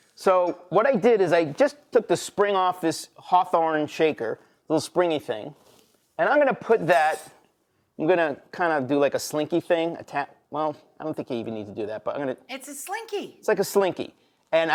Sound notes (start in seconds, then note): none